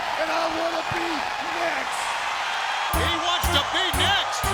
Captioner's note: crowd cheers